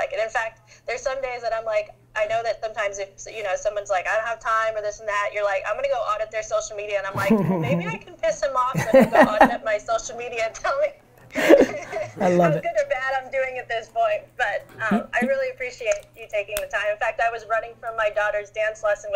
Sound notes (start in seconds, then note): 7.1 Gary laughs; 11.4 laughs